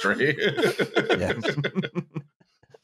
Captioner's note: laughter